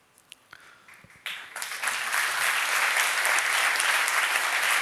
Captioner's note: applause